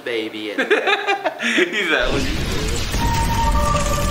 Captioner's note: roy laughing